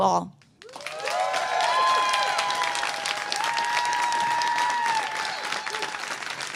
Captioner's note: applause